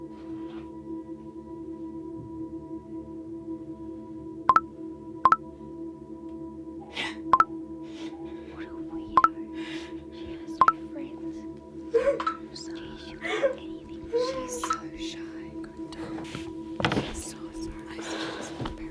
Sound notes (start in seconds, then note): 7.9 phone chimes; 11.9 girl crying; 15.2 disembodied Whisper